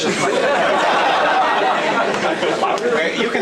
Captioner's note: audience laughs